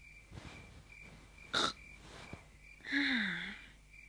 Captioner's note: snorting sound